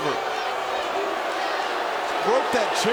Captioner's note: audience jeers